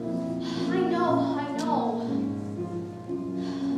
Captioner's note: sighs